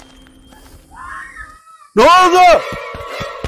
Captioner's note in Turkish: çığlık